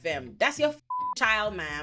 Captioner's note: beep